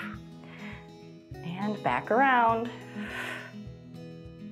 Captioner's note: exhales